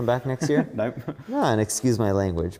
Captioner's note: laughs